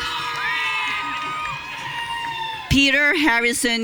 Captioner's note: audience cheering